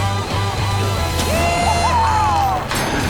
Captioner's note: cheering